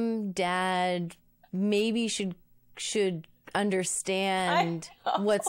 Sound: laughs

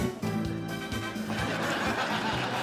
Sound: laughter

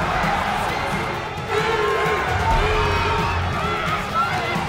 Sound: crowd chanting

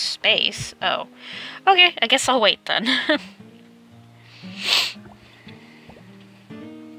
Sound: laughs

